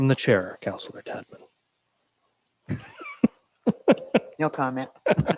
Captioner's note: laughs